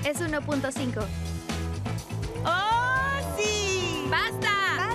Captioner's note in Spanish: rugido de motor